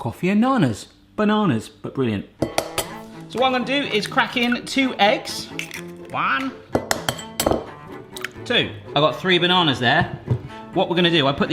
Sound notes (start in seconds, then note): 2.4 egg cracking onto bowl; 5.4 egg cracking